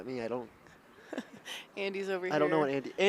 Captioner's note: chuckles